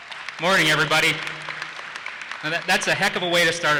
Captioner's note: laughs; audience applauses